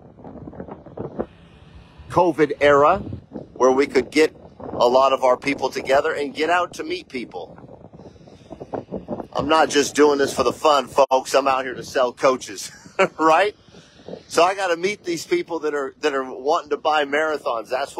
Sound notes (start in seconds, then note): 12.7 laughs